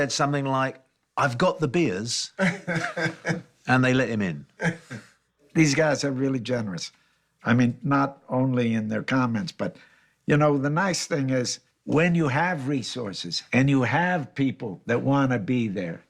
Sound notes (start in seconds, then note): 2.4 chuckles